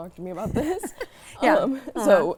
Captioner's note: laughing